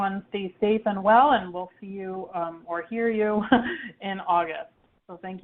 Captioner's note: chuckles